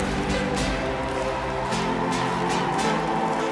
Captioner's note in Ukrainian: оплески